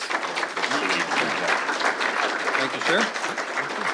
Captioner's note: applause